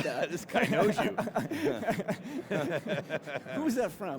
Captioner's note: both laughing